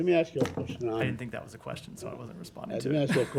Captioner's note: laughter